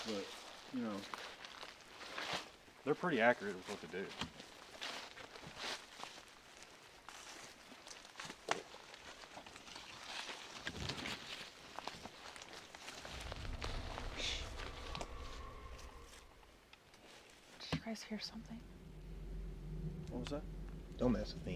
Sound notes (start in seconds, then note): 15.2 scream echoes